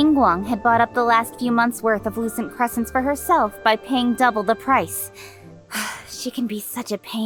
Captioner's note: sigh